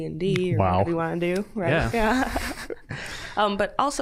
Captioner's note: all chuckling